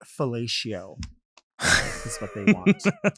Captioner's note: laughs